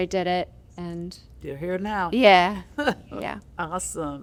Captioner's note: laughter